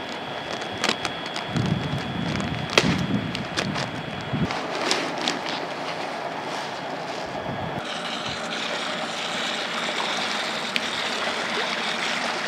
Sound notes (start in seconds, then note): 1.9 bag tearing; 10.8 water splashing